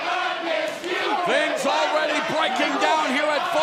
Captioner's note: fans chanting